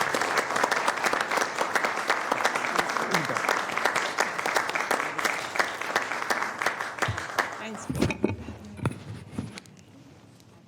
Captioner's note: applause